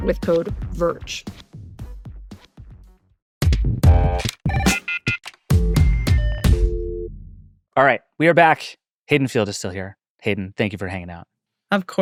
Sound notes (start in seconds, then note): 3.5 uptempo electro music; 4.5 phone rings